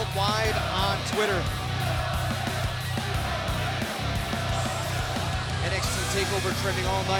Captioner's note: crowd cheering